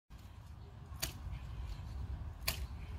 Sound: digging sound in background

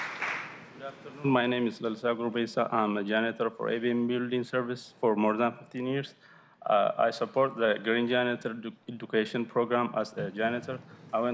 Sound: applause

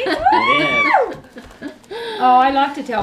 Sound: laughing

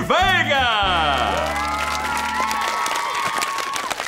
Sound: cheering, applauding

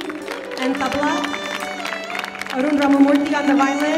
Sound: audience claps

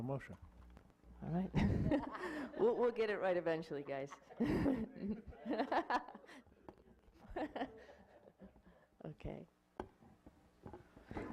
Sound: laughing

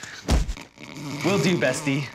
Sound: thuds; snoring

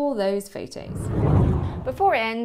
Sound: air swooshing

